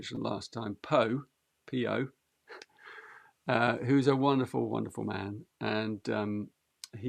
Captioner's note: chuckles